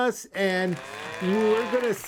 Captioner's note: mooing and applauding